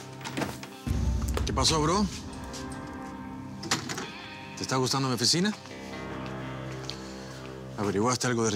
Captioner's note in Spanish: sonido al abrir la puerta